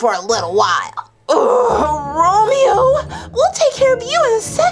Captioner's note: groans